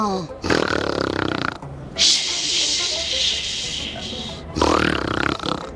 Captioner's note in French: Elle imite un ronflement